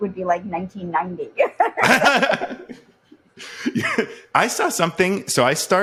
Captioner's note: laughs